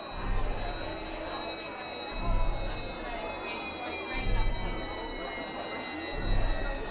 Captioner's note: people chattering; eerie music